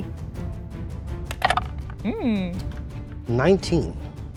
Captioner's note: die rattling